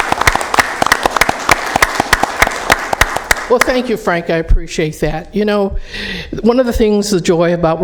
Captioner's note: applause